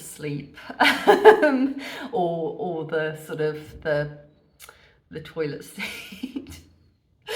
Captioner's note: laughing